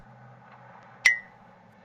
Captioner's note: plink